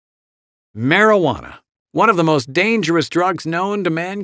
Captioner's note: voiceover